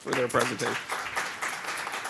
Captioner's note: applause